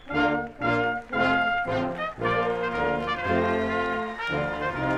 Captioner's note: attendees clapping